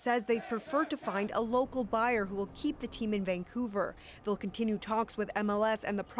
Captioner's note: chanting